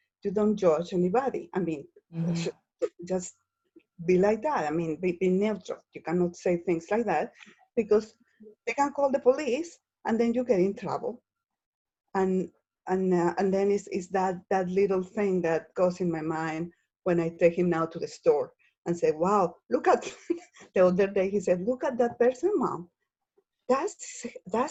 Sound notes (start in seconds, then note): 20.1 laughs